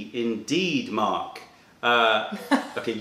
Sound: laughter

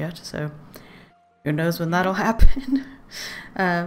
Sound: laughs

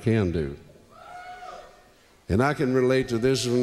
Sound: crowd Cheers

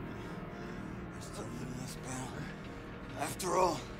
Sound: speaking foreign language

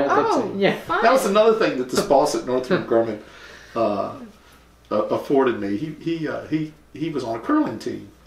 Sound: laughter

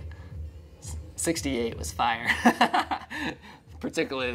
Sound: laughing

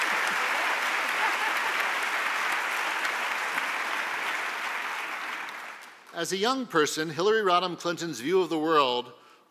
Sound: applause

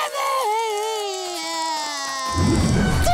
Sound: crying

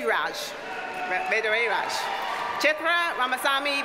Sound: audience cheers and applauds

